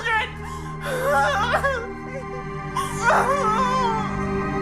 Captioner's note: weeping